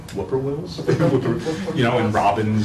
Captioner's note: laugh